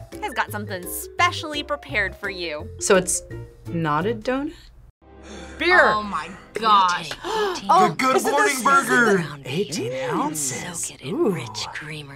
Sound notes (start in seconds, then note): 7.1 gasps